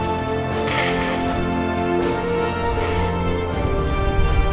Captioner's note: sniffles